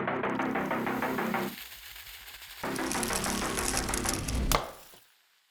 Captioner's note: liquid hissing; hammer thudding